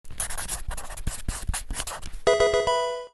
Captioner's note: pencil scribbling